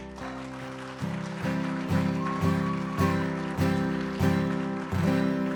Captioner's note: audience applauds